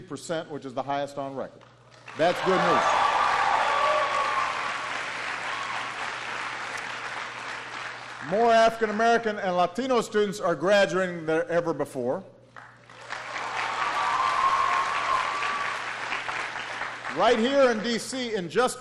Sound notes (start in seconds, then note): 7.1 applause; 14.8 applause